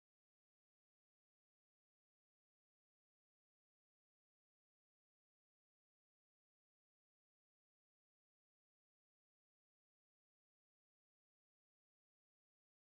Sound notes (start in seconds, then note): none